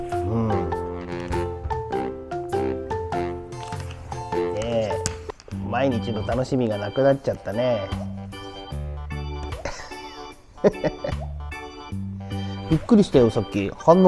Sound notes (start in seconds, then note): 10.5 laughs